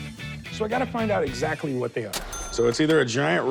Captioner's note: cash register ring